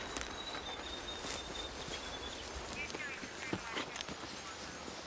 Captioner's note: police radio chattering